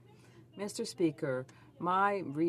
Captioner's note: speaking French